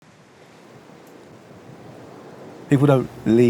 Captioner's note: wind whooshing